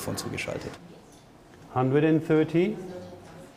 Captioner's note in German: englisch